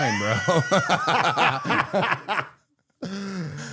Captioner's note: both laughing